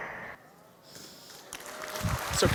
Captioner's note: applause